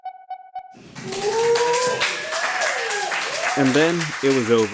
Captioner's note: applause